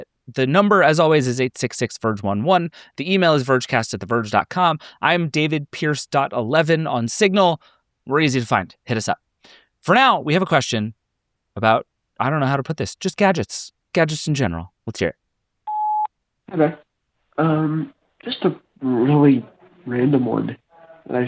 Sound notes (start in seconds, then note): 15.6 tone beeping